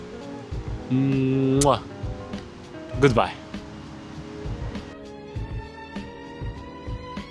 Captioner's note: kiss